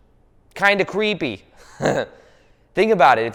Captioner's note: laughs